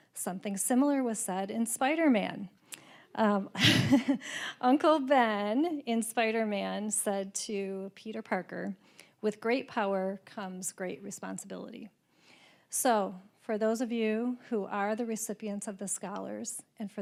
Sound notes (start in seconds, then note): 3.6 laughing